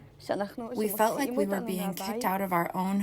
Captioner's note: through translator